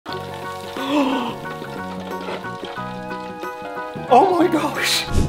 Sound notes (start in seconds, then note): 0.1 bright music; 0.8 person gasping